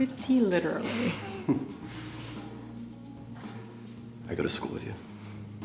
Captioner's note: laughs